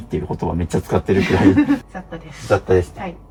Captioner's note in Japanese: 笑い